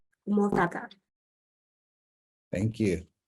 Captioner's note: speaks in foreign language